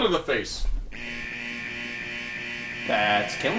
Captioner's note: alarm buzzing